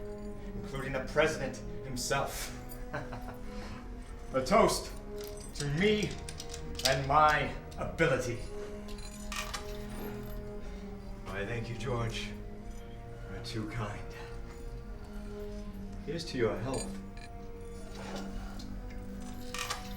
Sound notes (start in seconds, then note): 2.5 laughs